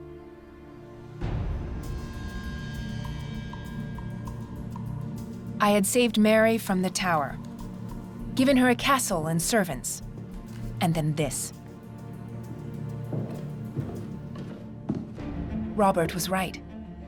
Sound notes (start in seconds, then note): 12.4 footsteps